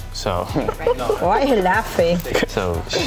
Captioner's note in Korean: 웃음